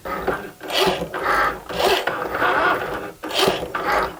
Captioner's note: Cricut whirs